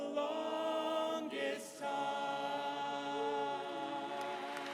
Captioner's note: applause